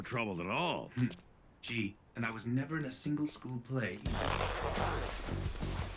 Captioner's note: over comms